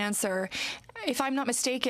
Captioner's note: speaking french